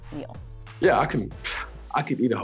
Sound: scoffs

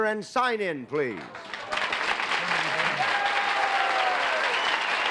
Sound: cheers and applause

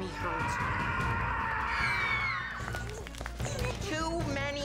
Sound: screams

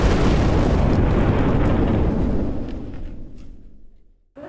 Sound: thunderous explosion

